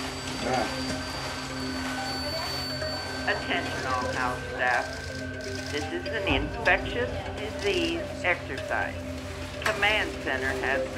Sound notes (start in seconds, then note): 1.9 beeping